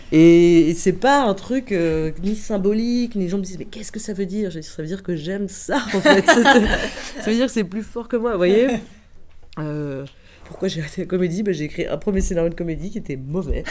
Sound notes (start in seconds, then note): 5.9 laughs